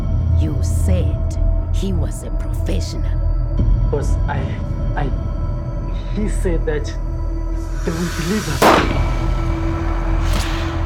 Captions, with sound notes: You said he was a professional. Boss, I.. I... he said that... they will deliver... [GUN SHOT]